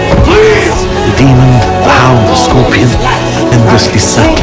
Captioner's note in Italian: declamando